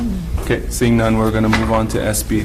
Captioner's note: woman mumbling